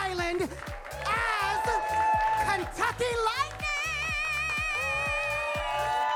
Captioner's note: attendees cheer and clap